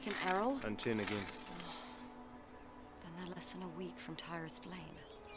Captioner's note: sighs